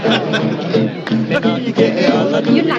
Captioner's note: speaking in french